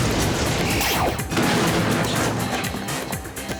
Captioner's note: explosion